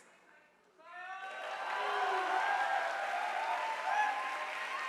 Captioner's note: audience applauding